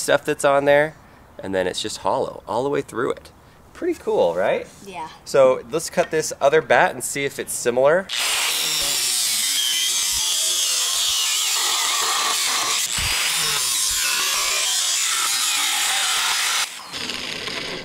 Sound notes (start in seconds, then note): 8.0 buzzsaw whirring